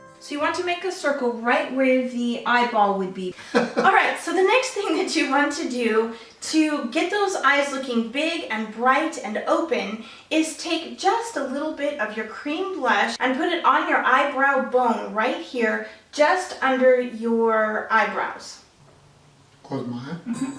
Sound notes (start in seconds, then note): 3.4 laughs